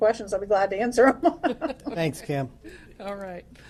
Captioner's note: laughter